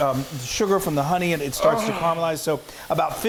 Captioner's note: groaning